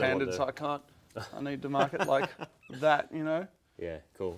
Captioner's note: laughing